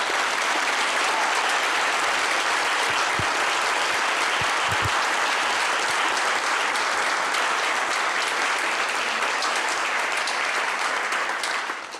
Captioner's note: clapping